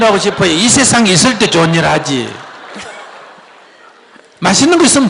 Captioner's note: audience Laughter